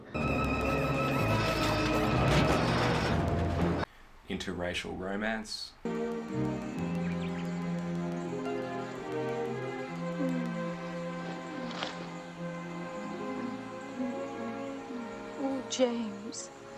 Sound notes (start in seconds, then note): 0.0 tense music; 2.1 whack; 2.6 tense music; 5.9 slow music; 7.0 birds chirping; 7.5 slow music; 16.6 slow music